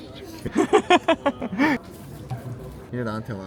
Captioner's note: my husband laughing